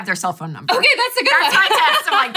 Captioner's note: laughs